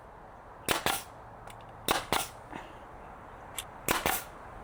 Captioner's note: nail gun hissing